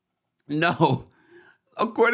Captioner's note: laughs